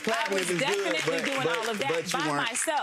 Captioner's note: audience clapping